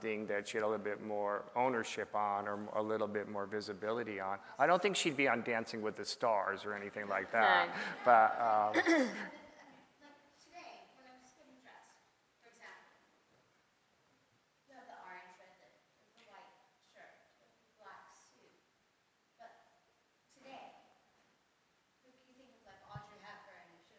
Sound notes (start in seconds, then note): 7.0 audience laughs; 8.7 clears her throat